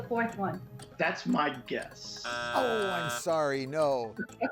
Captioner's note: buzzer sounds; laughs